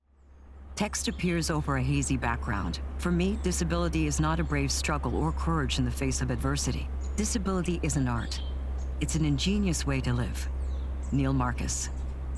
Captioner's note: birds Chirping